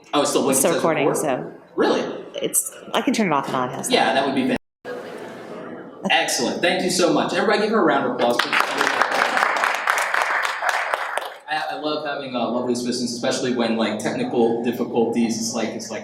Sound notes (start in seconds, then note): 5.4 video skips; 8.2 audience applauds